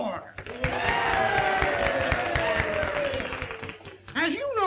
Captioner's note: crowd cheering